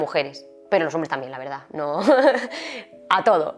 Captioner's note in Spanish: risas